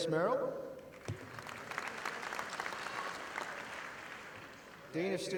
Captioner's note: audience applauding